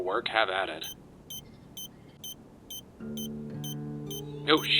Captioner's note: beeping